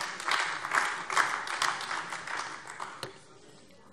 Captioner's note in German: Beifall AfD